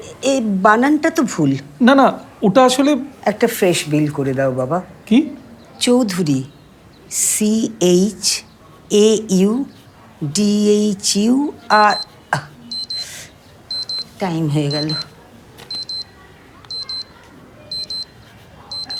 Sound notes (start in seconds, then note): 11.8 alarm beeps